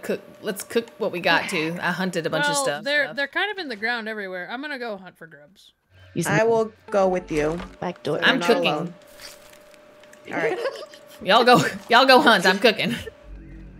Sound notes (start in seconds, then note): 10.3 laugh